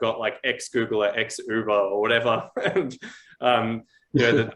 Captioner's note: laughs